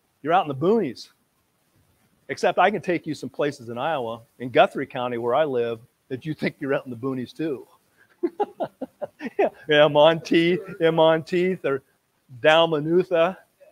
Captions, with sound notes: you're out in the boonies. Except I can take you some places in Iowa, in Guthrie county where I live, that you'd think you were out in the boonies, too (laughs). Yeah Monteith, in Monteith, or Dalmanutha.